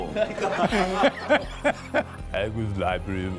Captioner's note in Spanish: grupo riéndose